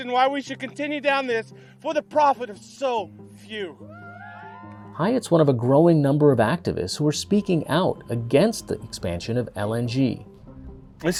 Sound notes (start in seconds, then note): 3.9 people cheering